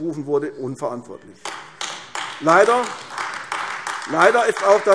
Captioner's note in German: Beifall AfD